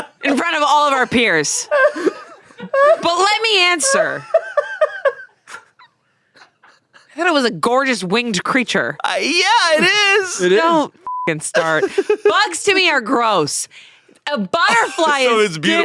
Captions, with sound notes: in front of all of our peers. But let me answer. Thought it was a gorgeous winged creature. - Yeah, it is. - Don't (beep) start. Bugs to me are gross. A butterfly is different.